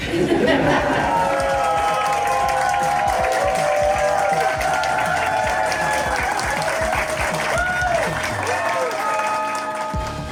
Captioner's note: crowd laughter; crowd clapping and cheering